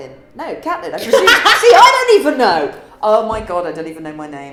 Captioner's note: laughs